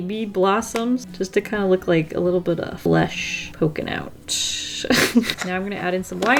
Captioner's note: laughs